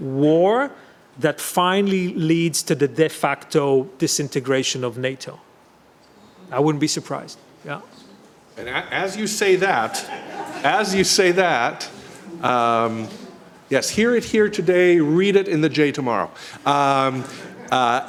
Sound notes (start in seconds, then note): 9.8 laughter